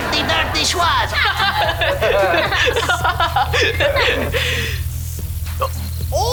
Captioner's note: laughign